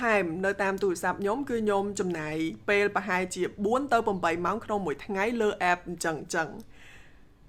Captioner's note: sigh